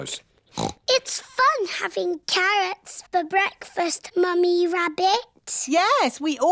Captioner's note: snorts